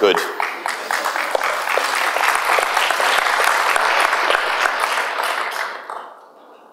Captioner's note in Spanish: aplausos